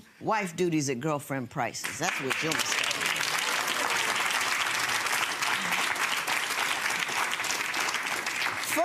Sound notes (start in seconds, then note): 5.3 audience clapping